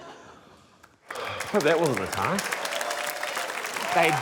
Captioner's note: exhales